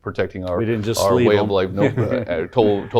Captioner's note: laughs